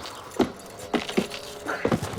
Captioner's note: grunting